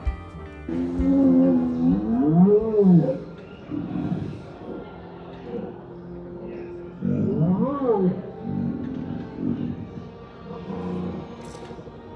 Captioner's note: Bantha sounds